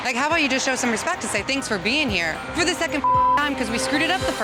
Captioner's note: beep